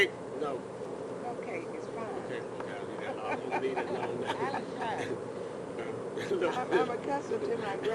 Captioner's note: laughs